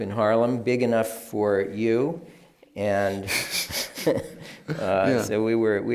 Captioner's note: laughs